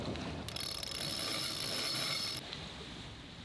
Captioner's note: rope creaking; waves crashing; wind blowing